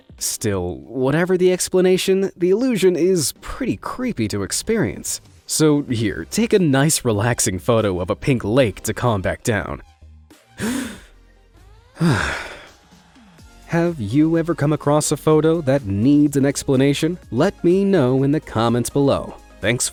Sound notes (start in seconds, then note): 11.9 gasping; 11.9 sighs